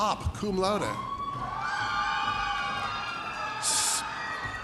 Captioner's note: audience cheers